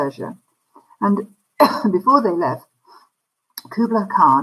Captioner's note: coughs